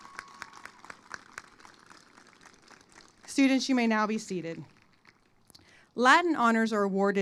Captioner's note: applause